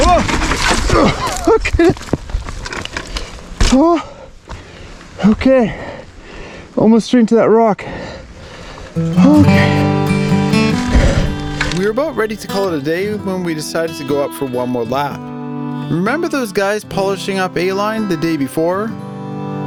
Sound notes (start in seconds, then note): 1.0 nervous laugh; 9.3 breathless; 11.1 hard breathing